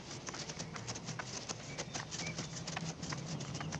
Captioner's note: none